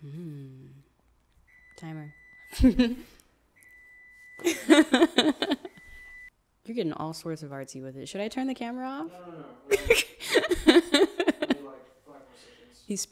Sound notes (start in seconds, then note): 2.1 oven beeps; 4.4 laughs; 9.7 laughs